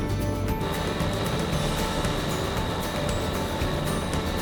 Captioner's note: uplifting music; engine revs